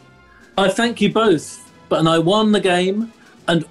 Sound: none

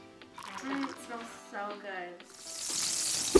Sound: tea pouring; pan sizzling

